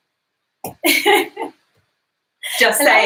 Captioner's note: laughs